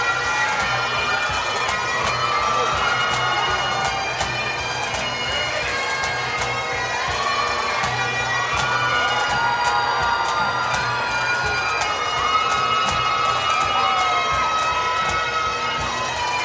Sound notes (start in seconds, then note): 0.2 drums and bagpipes; 7.4 cheers and Applause